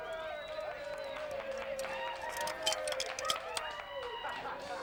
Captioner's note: people cheering